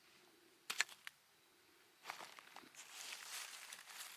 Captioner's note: bones pattering